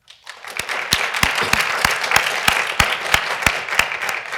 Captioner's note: everyone applauds